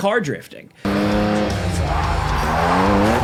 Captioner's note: car engine roaring; tires screeching; upbeat music